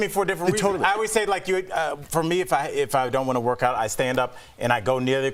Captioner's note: laughter